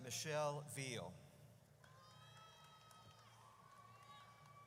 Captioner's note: audience cheers